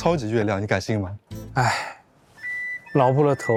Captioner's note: sigh